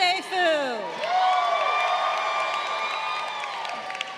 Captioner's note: crowd cheering